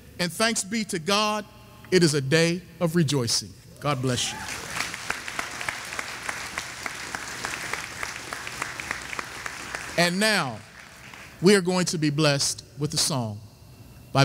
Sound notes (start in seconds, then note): 4.2 audience applauding